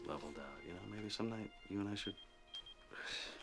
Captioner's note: beeper chiming